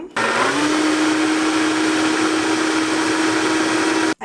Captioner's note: whirring